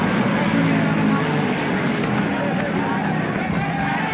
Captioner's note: frantic chattering